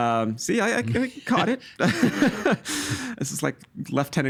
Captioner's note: laughing